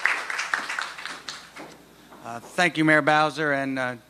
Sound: applause

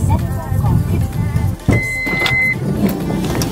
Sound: none

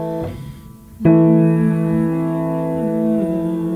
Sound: humming

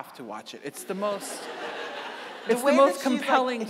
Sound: audience laughing

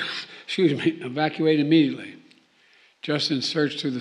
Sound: coughs

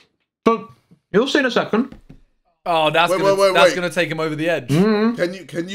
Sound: laughing

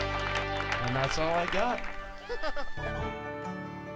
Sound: laughter

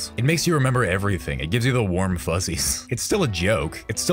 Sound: chuckle

